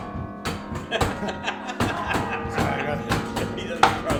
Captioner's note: laughter